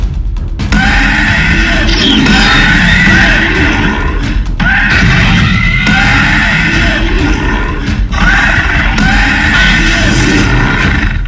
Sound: dinosaurs communicating/roaring and fighting

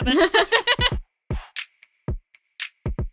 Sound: laughter

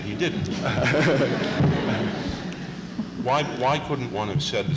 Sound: laughter

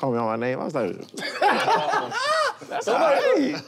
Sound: laughter

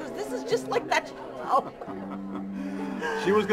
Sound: laughter

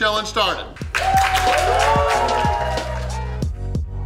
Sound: cheering & Clapping

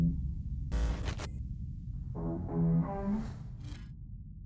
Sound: amp sounds

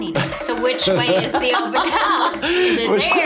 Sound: laughs

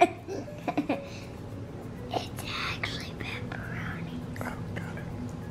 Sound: whispers

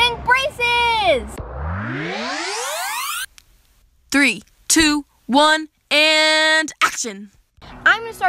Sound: swoosh

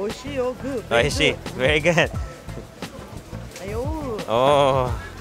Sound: speaking in Japanese

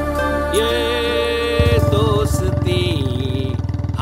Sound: humming a song

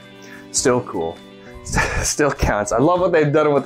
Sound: laughs

